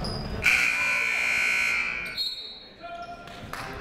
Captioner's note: buzzer ringing; whistle tweeting